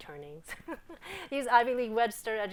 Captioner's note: laughing